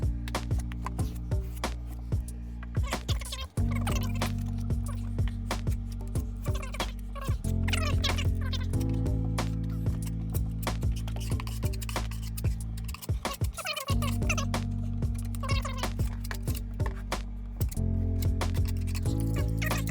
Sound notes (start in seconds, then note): 0.2 gentle music; 3.2 tape fast forwarding; 5.7 gentle music; 7.1 tape fast forwarding; 9.6 gentle music; 13.6 tape fast forwarding; 16.9 gentle music; 19.7 tape fast forwarding